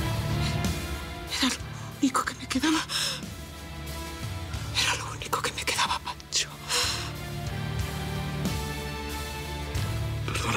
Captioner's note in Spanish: Susurra